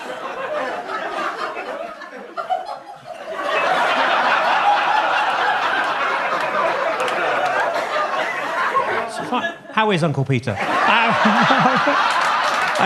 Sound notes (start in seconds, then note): 2.5 woman laughing; 3.6 audience laughing; 10.5 audience laughs